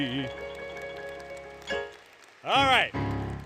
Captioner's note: applause, Music; applause